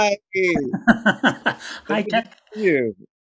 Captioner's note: giggling